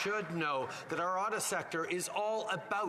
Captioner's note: applause